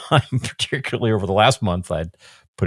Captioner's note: laughs